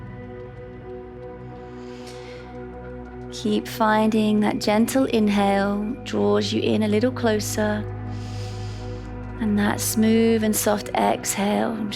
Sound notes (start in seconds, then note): 0.1 calm music; 8.1 inhales